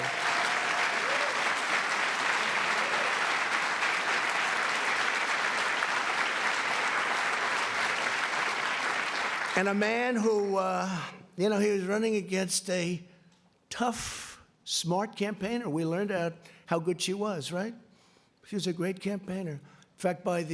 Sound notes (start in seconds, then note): 7.8 applause